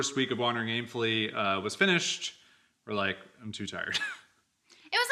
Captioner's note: chuckles